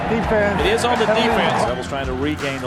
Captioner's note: voiceover